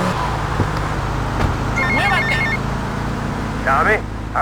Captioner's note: phone ringing